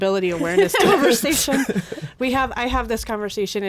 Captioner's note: group laughs